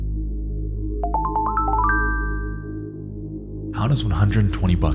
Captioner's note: message beeps